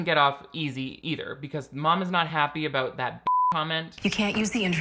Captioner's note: beep